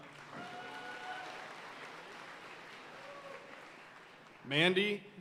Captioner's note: audience cheering and applauding